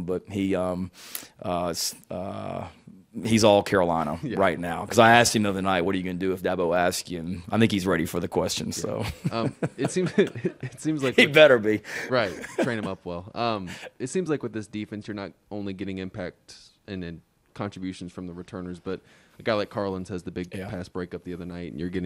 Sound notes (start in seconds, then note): 9.0 everyone laughing